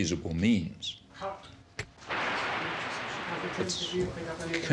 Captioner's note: static buzzing